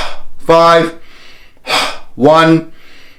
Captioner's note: inhaling and exhaling